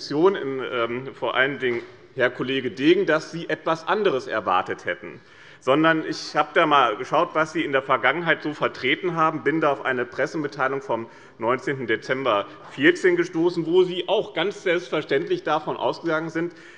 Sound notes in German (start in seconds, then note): none